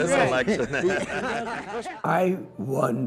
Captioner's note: crowd laughs